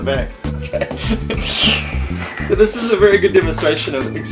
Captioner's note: loudly giggling